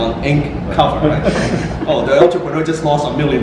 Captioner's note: crowd laughs